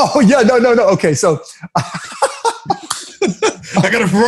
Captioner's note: laughs